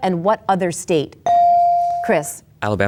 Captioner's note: bell dings